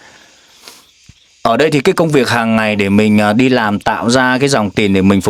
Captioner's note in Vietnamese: khịt mũi